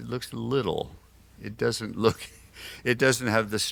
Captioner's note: laughs